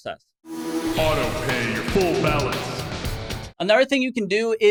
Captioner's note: intense music; voiceover